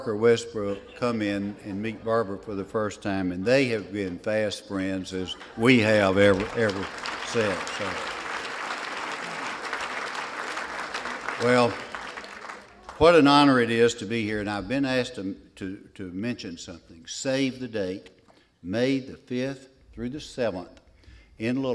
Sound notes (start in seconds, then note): 5.2 applause